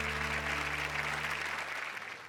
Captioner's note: applause